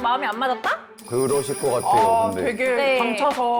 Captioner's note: sound effect of agreement